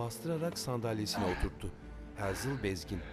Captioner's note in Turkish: Nefes sesi